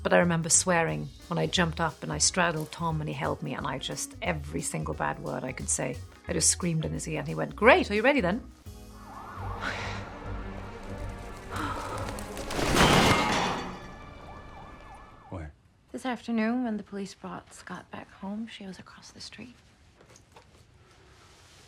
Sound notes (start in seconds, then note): 8.6 dramatic music; 12.5 loud clattering